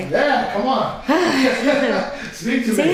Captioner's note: laughing